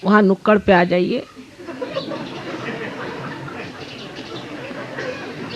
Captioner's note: laugh